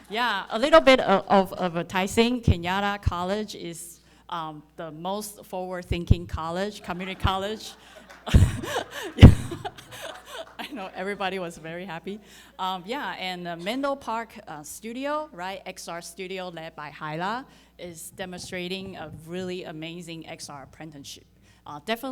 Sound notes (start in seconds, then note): 6.8 audience laughing